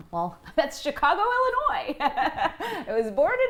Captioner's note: laughter